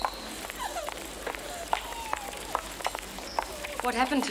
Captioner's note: student crying